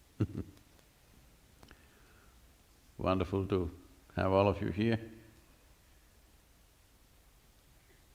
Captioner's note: laughter